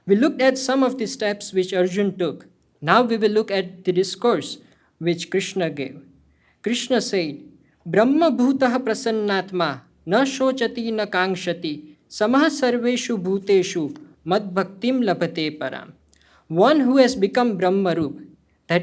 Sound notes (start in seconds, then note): 9.0 speaking hindi; 15.1 hindi